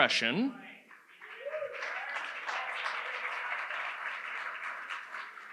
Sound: audience applauds

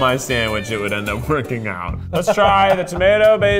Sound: laughing

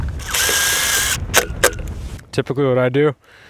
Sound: drill buzzing

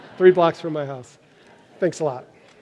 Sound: laughter

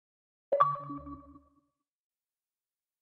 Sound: bleep Bloop

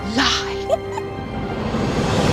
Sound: giggle

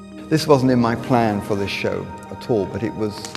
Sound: fire crackling

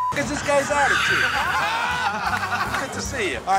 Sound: laughter

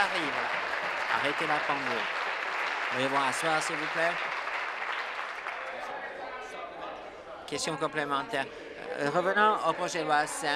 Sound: some Applause

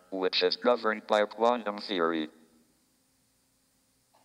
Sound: none

